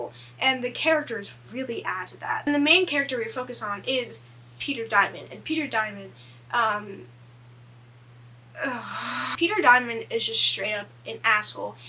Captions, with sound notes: And the characters really add to that. The main character we focus on is Peter Diamond. And Peter Diamond. (groans) Peter Diamond is just straight up an asshole.